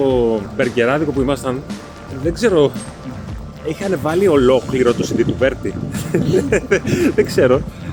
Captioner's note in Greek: γέλια